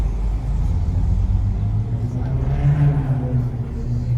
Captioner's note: engine revving